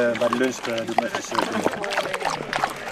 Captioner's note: dog slobbering